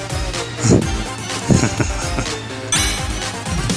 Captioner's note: he comes up with a idea and chuckles menacingly